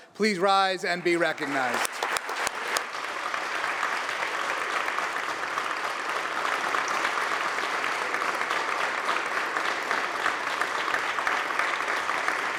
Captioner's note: applause